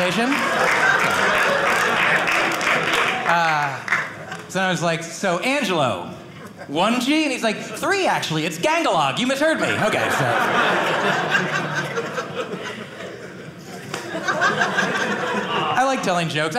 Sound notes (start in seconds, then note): 0.0 audience laughing; 9.6 audience laughing